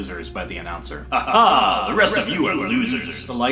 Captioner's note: disembodied voice laughs